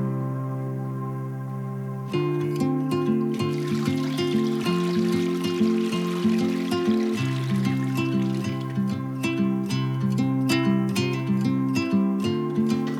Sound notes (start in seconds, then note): 2.9 tranquil rhythmic music; 3.0 water pouring